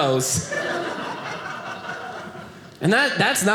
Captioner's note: audience laughing